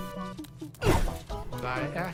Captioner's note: grunting